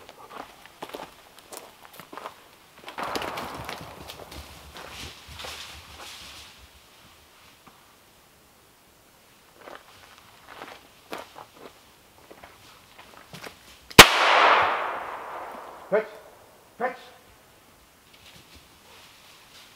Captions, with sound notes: (pistol firing) Fetch, fetch!